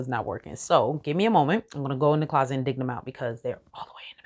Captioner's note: whispers